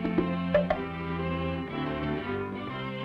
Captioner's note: bone clopping; cheerful music